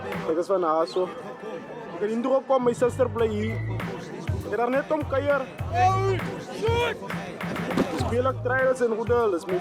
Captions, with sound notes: I'm from out there. I came here because my sister stays here. I just came to visit her. [SHOUTING] At the club trials